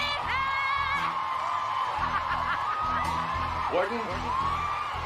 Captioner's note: Sondra laughs